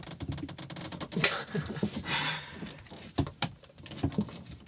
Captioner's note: chuckling